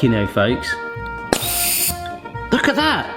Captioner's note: gas hisses; gas hissing